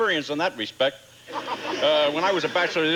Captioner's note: audience laughing